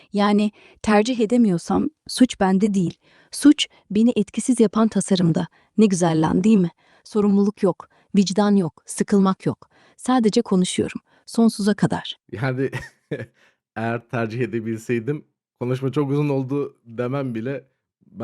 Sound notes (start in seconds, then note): 12.4 laughs